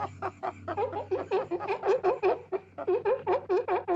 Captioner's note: barking